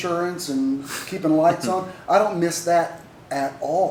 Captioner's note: laughter